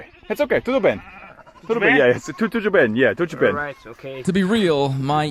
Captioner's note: people speaking in foreign language